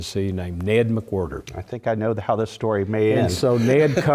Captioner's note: laugh